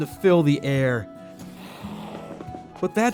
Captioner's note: zombie growl